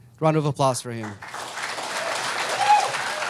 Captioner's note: crowd applauding and cheering